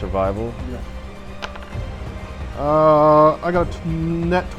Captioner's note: rolls d20 dice